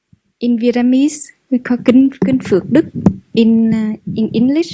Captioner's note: Vietnamese